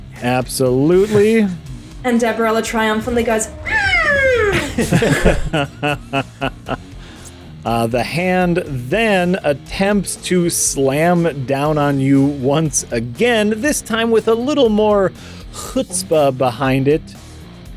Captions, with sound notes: Absolutely. And Deborah La triumphantly goes *happy noise*. The hand then attempts to slam down on you once again, this time with a little more chutzpah behind it,